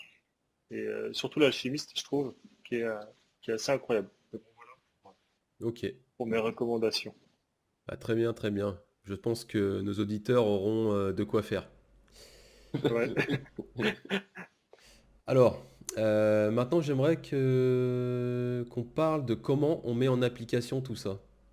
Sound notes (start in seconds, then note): 12.7 laughs